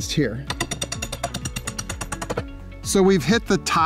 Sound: banging rebar

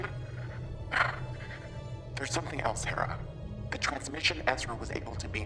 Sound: sighs

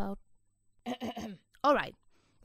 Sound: ahem

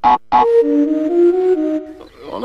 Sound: death sound from "Crash Twinsanity Java"

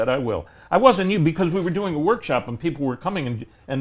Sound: murmurs

